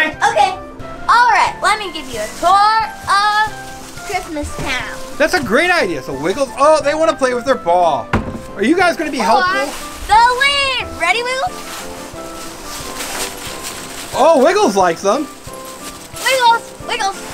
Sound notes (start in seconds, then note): 13.0 leaves falling